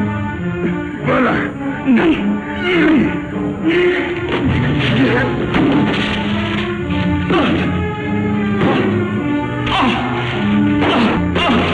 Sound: sounds of fighting, muffled exclamations

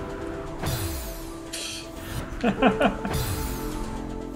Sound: laughs

